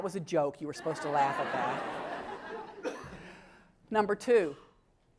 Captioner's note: laugh